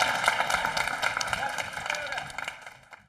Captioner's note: audience applauding